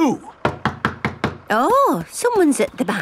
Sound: knocking at door

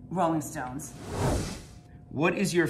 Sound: screen swooshing

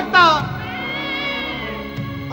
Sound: cat yowling

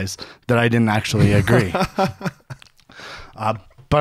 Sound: laughs

